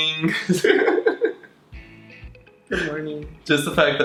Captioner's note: laughing